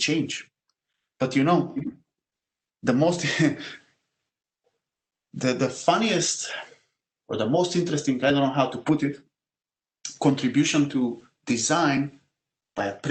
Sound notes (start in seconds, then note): 2.1 laugh